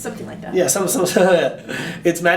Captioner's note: laughs